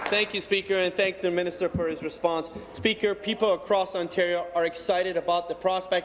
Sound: applause

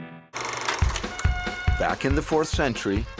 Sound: fast-forwarding tape sound

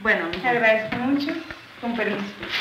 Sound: speaking Spanish

